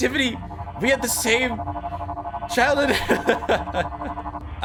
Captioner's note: laughs